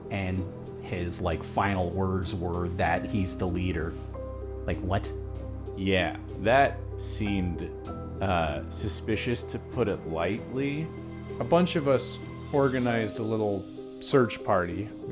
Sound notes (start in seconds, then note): none